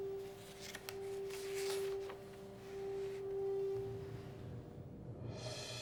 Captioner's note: melancholic orchestral music continues; paper rustling; dramatic orchestral music